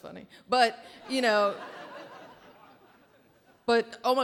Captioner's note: audience laughing